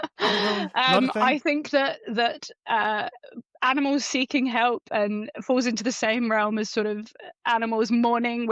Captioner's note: laughs